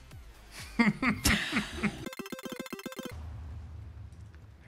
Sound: laughing

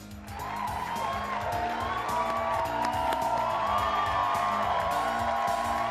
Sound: lively music; crowd applauding and cheering

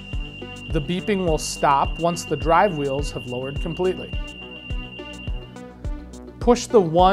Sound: rapid beeping

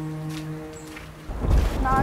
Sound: thunder clap

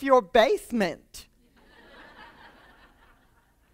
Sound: laughter

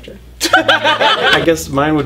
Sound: laughter

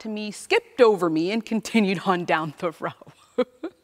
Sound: chuckles

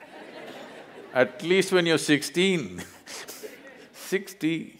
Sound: laughter; laughs

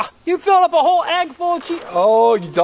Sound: voiceover

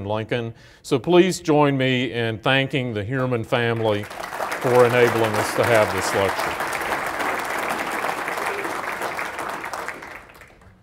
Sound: applause

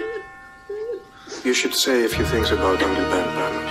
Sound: church bell chimes; cries softly

